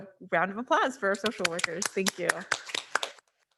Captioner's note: board members applauding